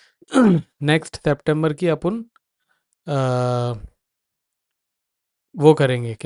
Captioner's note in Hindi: गला साफ़ करने की आवाज़